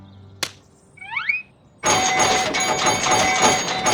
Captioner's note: pinball machine bleeps and dings